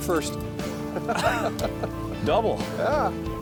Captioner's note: laughter